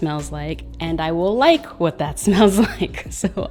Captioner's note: laughs